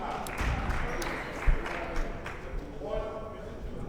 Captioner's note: clapping